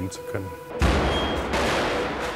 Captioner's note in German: Schüsse